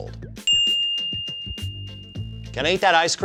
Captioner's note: bell Ring SFX